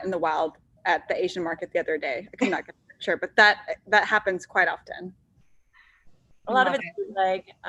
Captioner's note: laughs